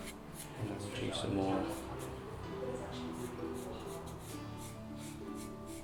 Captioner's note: marker rasping